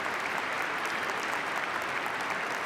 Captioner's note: applause